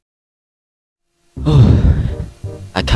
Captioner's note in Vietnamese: rên